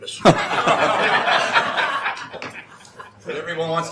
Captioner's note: laughing